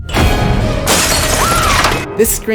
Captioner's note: screams